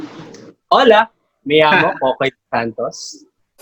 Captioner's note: in Spanish